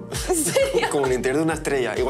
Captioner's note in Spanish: Risas